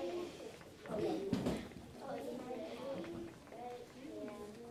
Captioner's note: learners conversing